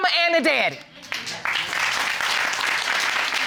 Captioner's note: audience applauding